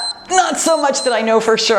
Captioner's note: timer beeps